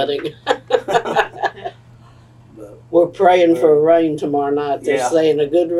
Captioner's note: laughter